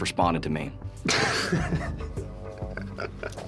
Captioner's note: laughing